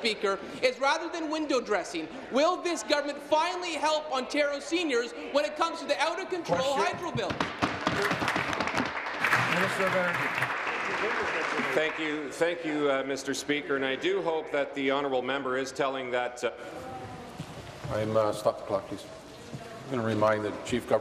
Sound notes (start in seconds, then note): 12.5 applause